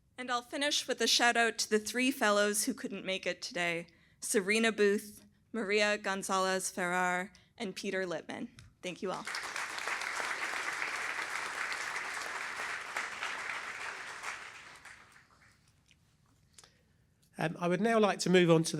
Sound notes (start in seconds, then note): 9.0 applause